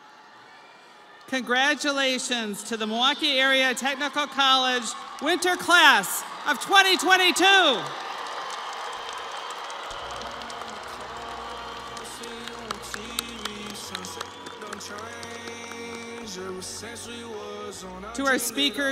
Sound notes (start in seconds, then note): 0.0 audience applauding; 11.8 audience applauding; 11.8 crowd cheering; 15.1 melancholy music